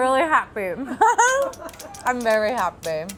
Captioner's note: laughing